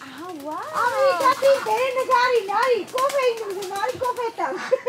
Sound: in Armenian; speaking Armenian

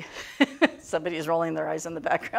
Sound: laughing

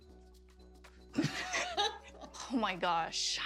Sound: laughter

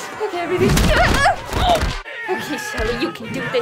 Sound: squeal

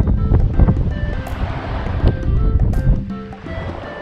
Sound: wind whooshing

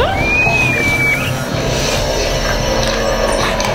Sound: screams

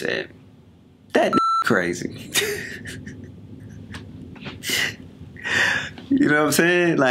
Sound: beep; chuckles

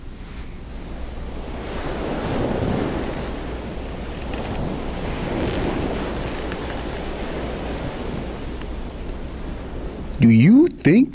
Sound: ocean waves washing onto shore

